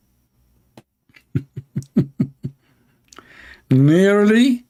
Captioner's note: Ketawa